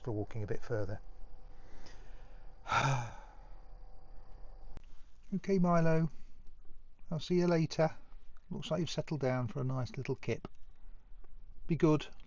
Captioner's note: sigh